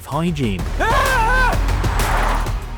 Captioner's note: screams